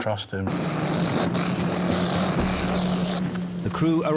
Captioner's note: engine rumbling